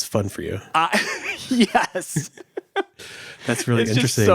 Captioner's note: laughs